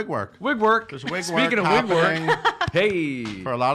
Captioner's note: laughing